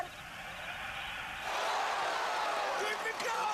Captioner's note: crowd cheering